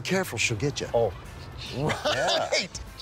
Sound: laughs

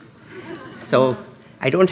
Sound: laughs

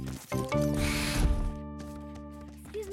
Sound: door shuts

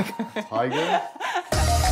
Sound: Jennifer laughing; mellow hip hop music

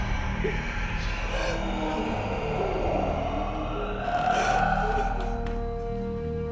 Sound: monster growling noise

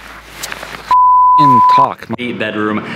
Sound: beep

